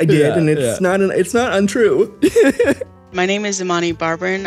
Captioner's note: laughs